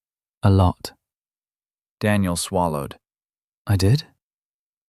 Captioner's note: quiet